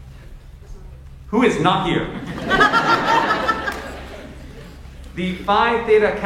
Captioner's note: audience laughs